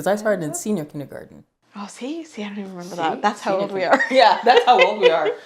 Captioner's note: giggles